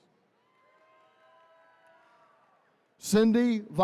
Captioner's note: attendees cheering